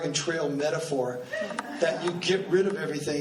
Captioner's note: laughing